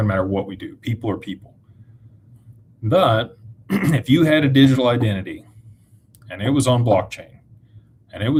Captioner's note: clears throat